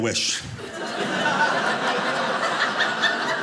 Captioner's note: audience laughing